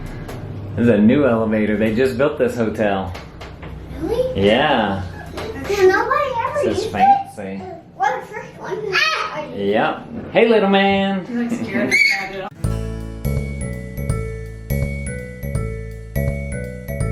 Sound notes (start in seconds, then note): 11.8 baby screeching; 14.2 soft music